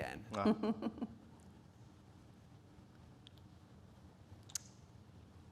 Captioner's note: speakers laughing